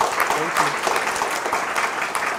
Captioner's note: applause